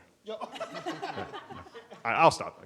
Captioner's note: audience laughing